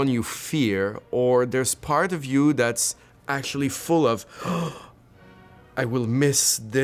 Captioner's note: gasps